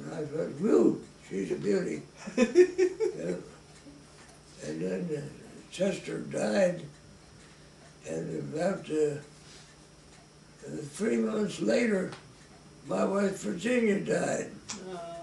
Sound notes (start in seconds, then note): 2.2 chuckles